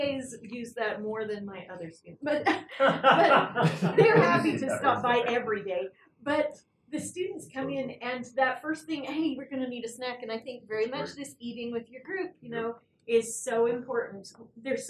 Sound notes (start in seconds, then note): 2.3 laugh